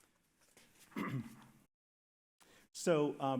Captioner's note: clears throat